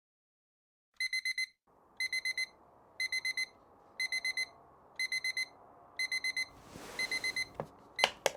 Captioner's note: alarm clock rings